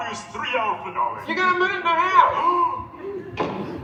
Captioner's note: gasps